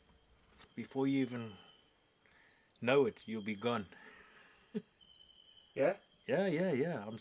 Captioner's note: laughs